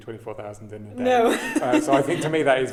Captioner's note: chuckling